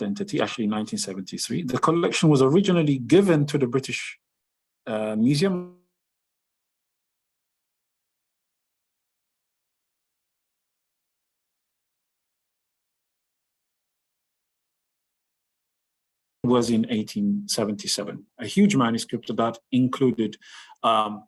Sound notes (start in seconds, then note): 8.8 long pause